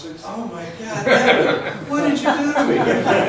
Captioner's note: laughs